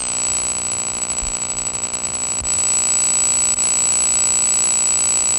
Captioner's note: static feedback buzzing